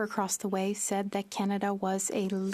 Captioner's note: speaking French